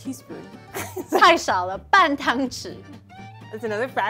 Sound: speaking in mandarin

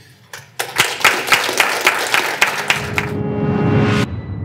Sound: audience applauds

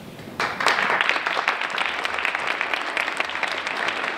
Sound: applause

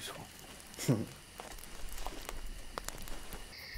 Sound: Dutch chuckles

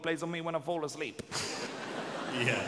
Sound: audience laughing

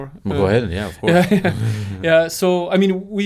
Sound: laughs

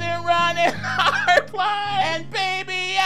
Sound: laughing

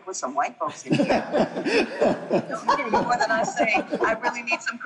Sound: laughing

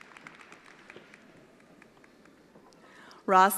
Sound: attendees applauding

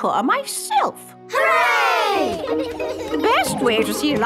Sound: giggling

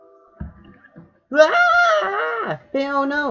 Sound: crying

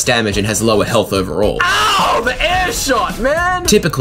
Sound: in-game, shouting

